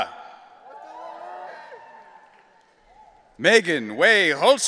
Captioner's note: audience cheering